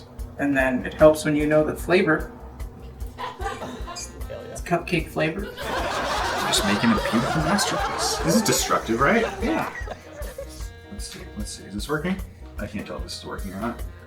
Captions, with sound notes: And then it helps when you know the flavor. [laughter] It's cupcake flavored. Just making a beautiful masterpiece. This is destructive, right? -Yeah! Let's see. Is this is working? I can't tell if this is working or not.